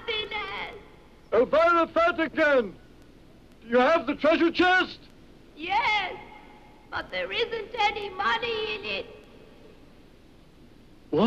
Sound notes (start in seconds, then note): none